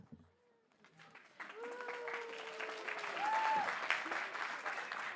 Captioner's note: applause